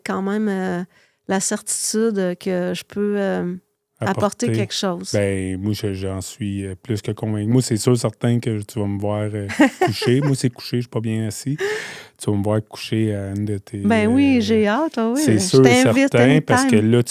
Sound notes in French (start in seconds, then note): 9.4 rires